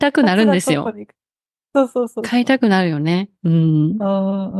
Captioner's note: Kansai accent